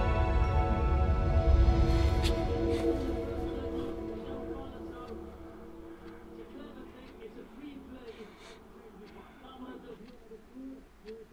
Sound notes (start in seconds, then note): 6.5 TV playing